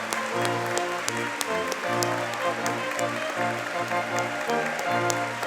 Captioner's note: audience clapping